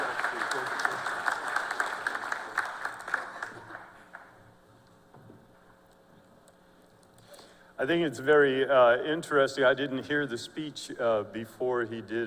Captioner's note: applause